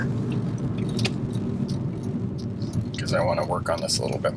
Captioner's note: turn signals clicking